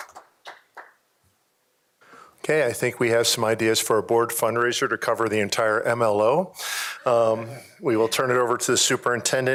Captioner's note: applause